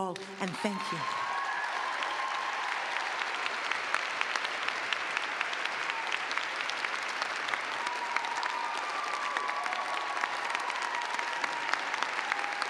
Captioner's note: cheers and clapping